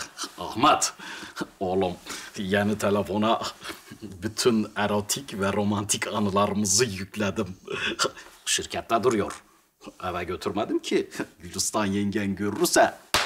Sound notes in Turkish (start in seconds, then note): none